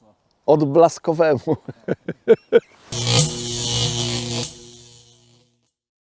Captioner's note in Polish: śmiech